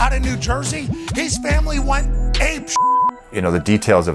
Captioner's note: beep